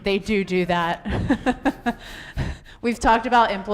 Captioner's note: laughs